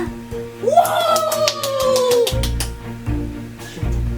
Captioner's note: clapping